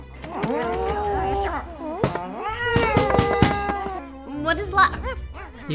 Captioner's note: aliens grumbling